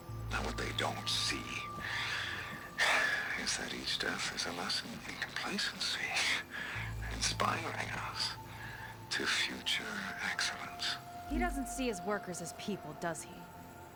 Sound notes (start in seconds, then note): 2.7 sigh; 6.1 laugh